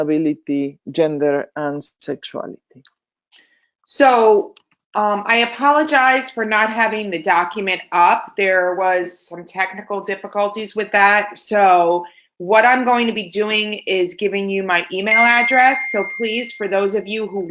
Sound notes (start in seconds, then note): 15.0 computer dinging